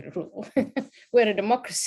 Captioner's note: laughs